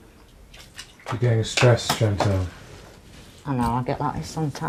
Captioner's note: voiceover